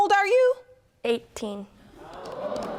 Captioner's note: audience gasping